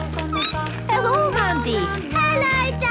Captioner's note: laughter; squeaking